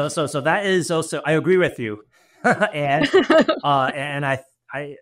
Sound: both lightly laugh

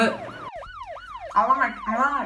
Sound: police Sirens

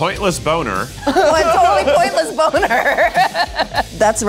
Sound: laughing

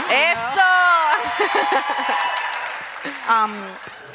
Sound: crowd cheers

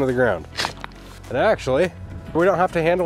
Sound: shovel rattling

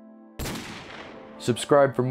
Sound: gun shot

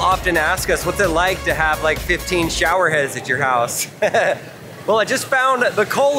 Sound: laughs

